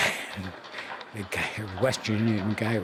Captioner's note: chuckling